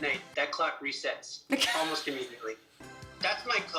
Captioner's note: laughs